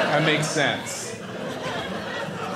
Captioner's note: audience laughing